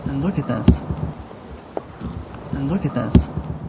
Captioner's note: distant scream